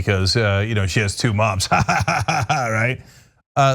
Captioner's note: laugh